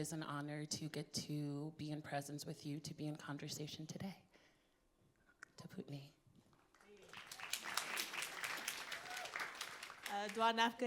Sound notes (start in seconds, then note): 6.0 speaking in foreign language; 6.8 audience applauds; 10.7 speaking foreign language